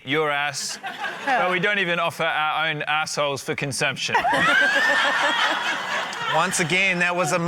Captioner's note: laughter